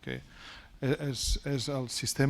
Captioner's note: speaking spanish